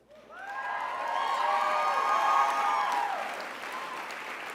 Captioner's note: crowd cheers